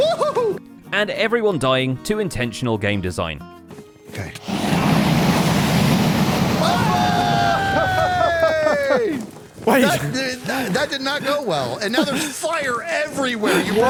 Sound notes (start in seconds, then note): 0.9 dragon roars; 1.5 hollering; 4.1 group cheering; 4.4 dragon roaring